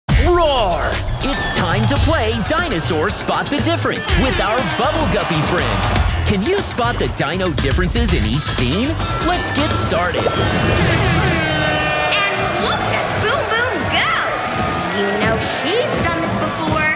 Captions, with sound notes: Roar! It's time to play Dinosaurs Spot the Difference with our Bubble Guppy friends. Can you spot the dino differences in each scene? Let's get started. [horn sounding] And look at Boom Boom go. You know she's done this before.